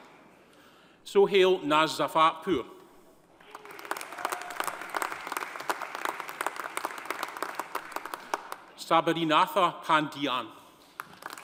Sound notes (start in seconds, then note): 3.4 audience cheering; 3.4 audience applauding